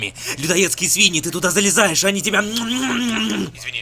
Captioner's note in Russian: имитация чавкания